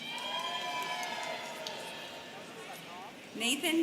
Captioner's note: students cheering